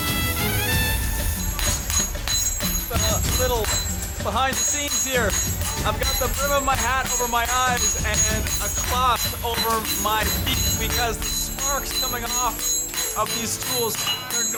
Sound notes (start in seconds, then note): 1.6 clattering